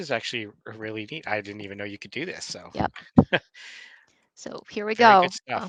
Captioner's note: chuckling